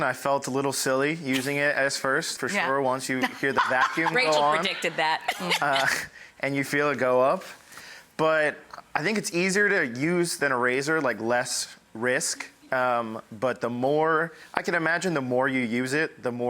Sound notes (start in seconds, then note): 3.2 laughs